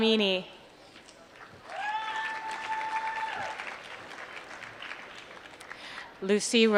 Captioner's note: applause